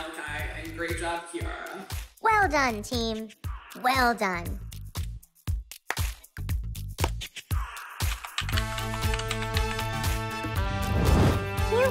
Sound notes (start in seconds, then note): 5.9 hands tapping; 8.0 upbeat music